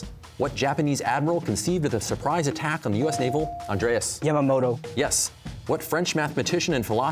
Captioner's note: none